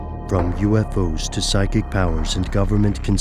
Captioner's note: voiceover